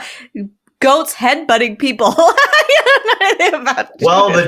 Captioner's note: laughter